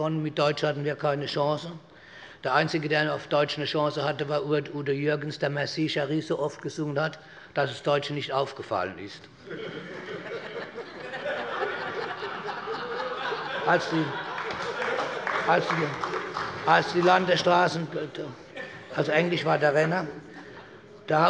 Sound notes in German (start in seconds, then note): 9.4 Heiterkeit bei Abgeordneten der CDU und der SPD